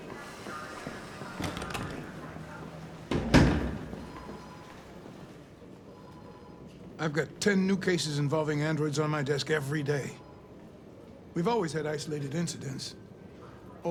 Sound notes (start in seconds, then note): none